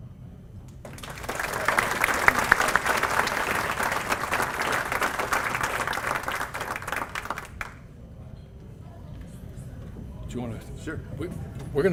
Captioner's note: applause